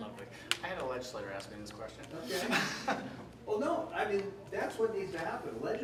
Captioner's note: chuckle